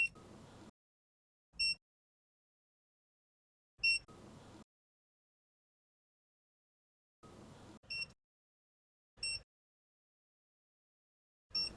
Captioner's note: beeping from the torque wrench